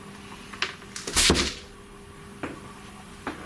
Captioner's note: door closing